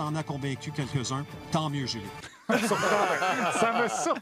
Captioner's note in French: rires